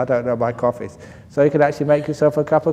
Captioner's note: laughs